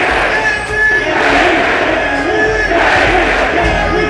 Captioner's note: chanting continues